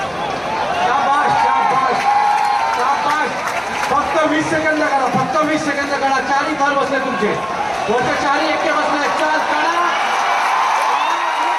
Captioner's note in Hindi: तालियाँ